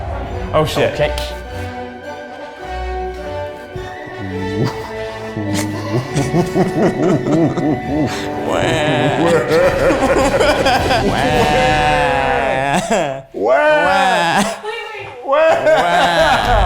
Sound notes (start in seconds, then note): 0.4 dramatic music; 8.7 crying